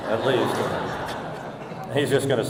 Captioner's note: audience laughing